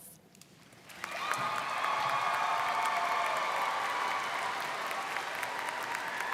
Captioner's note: students cheering and applauding